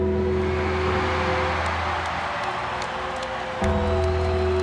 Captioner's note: applause